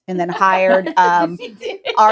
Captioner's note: laughing